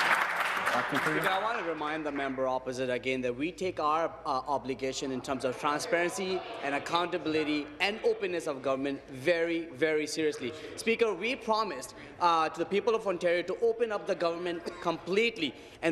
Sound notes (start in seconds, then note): 2.8 applause